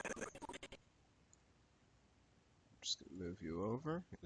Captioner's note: audio skipping